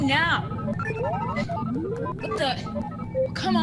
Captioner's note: beeping, whirling